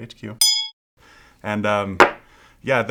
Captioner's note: ding